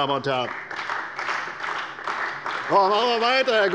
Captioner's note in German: Beifall bei der CDU und dem BÜNDNIS 90/DIE GRÜNEN